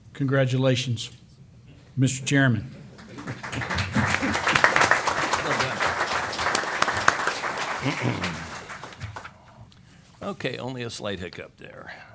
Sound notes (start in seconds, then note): 2.8 applause